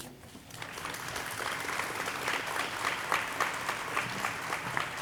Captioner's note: audience applauding